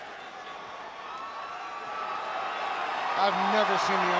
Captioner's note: crowd cheering